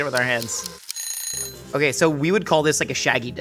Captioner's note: alarm ringing